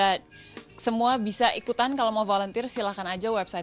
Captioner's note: non-english speech